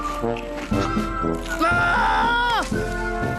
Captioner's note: screams